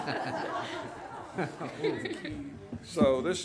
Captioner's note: laughing